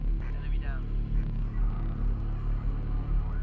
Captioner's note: man Over Radio; deep tense music